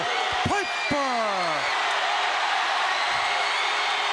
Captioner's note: audience cheering